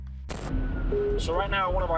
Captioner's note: sirens wailing